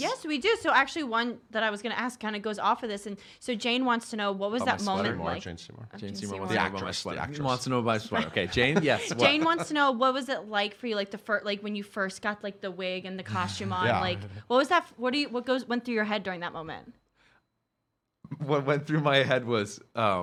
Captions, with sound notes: - Yes we do, so actually one that I was gonna ask actually goes off of those and so Jane wants to know, what was that moment like? - On my sweater? - Jane Seymour. - Jane Seymour. - The actress, the actress. - Okay, Jane, yes? (laughing) - Jane wants to know what was it like for you, like when you first got like the wig and costume on, like what went through your head during that moment? - What went through my head was,